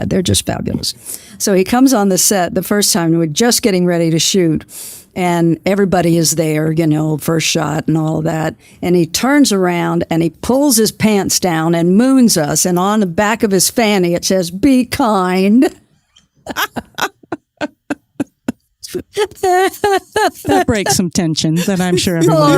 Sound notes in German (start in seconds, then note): 16.4 Lacht